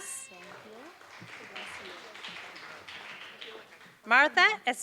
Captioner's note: applause